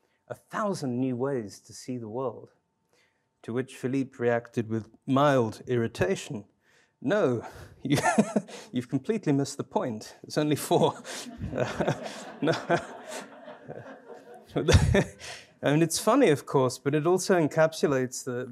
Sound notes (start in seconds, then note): 7.3 laughs; 10.7 audience laughing